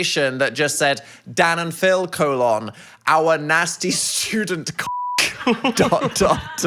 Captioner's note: beep